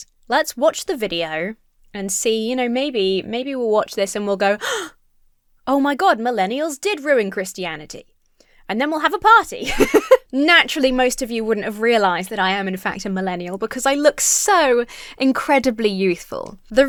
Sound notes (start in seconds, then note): 4.6 gasps; 9.6 laughs